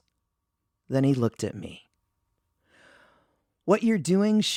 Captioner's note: pause